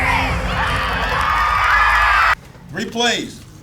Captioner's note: cheering